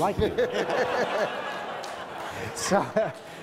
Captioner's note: audience laughs